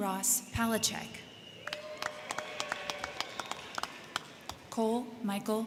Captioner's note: crowd cheering; crowd clapping